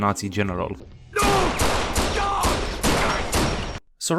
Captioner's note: gunshots, screaming